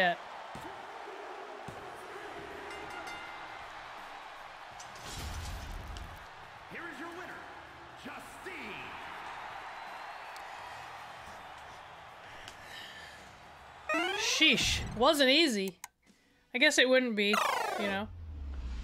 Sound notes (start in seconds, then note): 0.2 applause; 9.7 applause